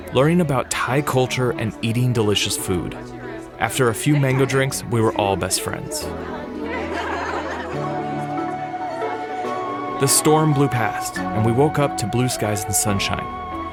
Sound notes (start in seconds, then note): 6.2 laughing